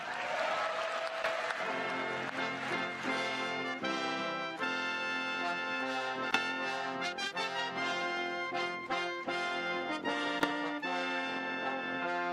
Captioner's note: cheers and applause